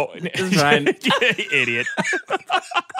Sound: laughter

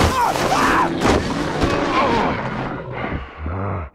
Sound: animal roaring

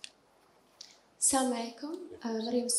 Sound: speaking in foreign language

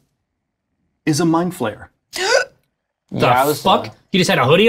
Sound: gasps

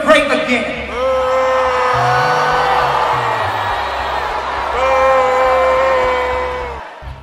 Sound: audience Booing

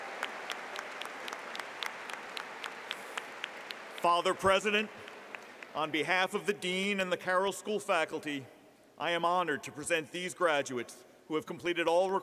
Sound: applause

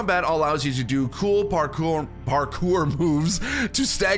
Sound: laughs

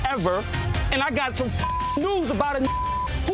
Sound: beep

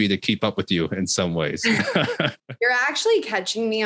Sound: laughs

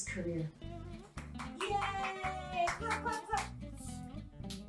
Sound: O.S. Applause and cheering; claps and baby noises

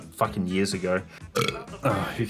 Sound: burps

